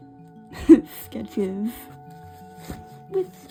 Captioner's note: laughs